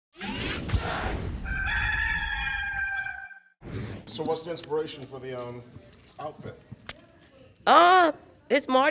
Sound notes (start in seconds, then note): 0.4 mechanical shifts; 1.4 rooster crows